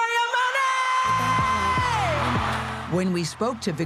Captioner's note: cheering